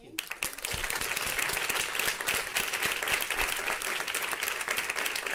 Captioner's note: audience applause